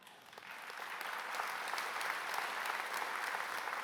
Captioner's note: applause